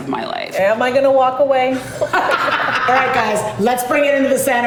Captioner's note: laughter